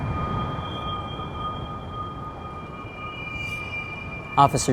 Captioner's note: high pitched humming frequency